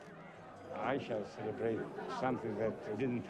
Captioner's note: accented english